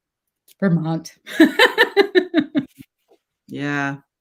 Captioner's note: laughs